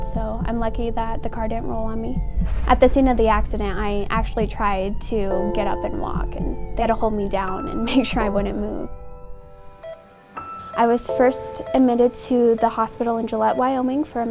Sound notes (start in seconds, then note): 9.8 heart monitor beeping